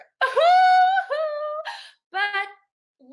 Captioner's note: chuckling